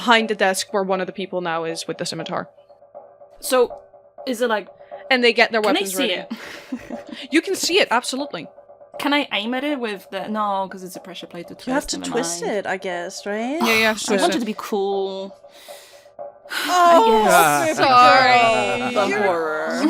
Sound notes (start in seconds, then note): 16.5 dramatic sigh; 16.9 sighs